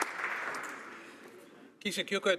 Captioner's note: some Applause